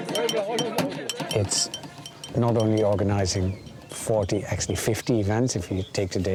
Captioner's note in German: auf Englisch